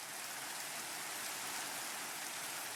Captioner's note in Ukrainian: Звуки дощу